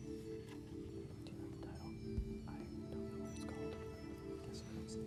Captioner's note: whispering